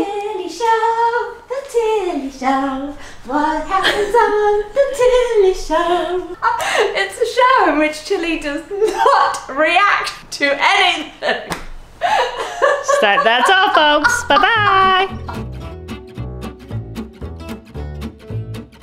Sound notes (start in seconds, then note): 12.0 both giggling; 15.6 upbeat jazz music